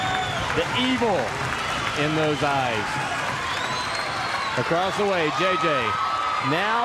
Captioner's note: crowd cheering